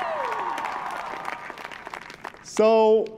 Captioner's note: applause